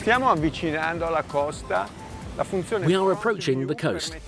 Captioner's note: speaking in foreign language